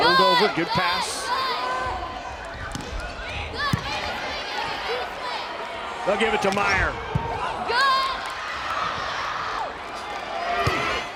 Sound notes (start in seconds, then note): 3.1 players yelling